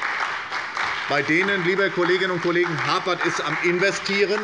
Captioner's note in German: Beifall bei der SPD und der FDP